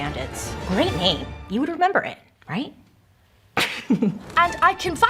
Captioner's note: chuckles